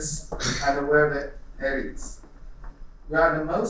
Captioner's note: coughing